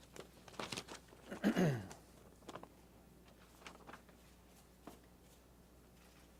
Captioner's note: clears throat